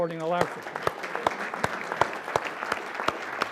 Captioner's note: applause